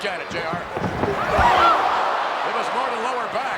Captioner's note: crowd exclaiming; Bret Hart thudding